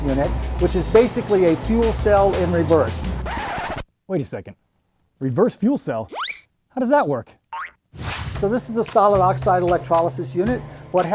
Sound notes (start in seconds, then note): 3.2 disc scratching